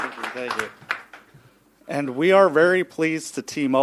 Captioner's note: applause